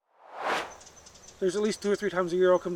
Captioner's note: air swooshes